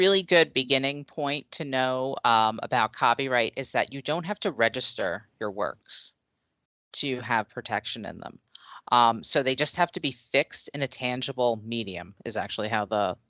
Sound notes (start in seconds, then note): none